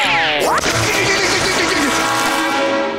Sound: groaning; grunting

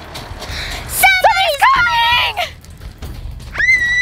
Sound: both scream; screams

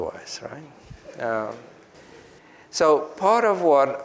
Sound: group chuckles

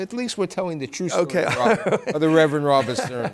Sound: laughter

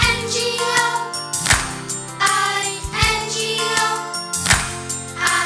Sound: clap

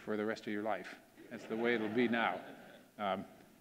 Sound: audience laughing

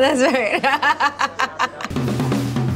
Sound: laughing

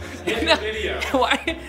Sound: laughing

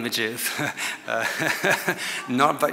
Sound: laughs

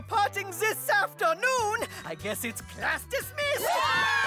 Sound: students cheer

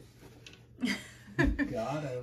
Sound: mom and Dad laughing

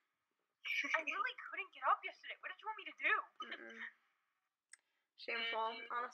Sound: laughing

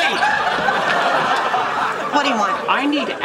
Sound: audience laughing

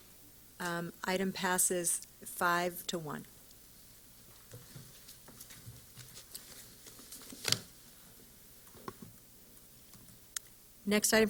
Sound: silence

